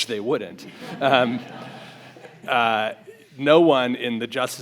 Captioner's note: audience laughs